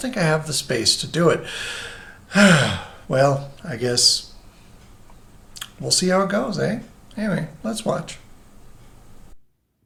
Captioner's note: sighs